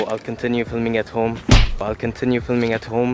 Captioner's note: slap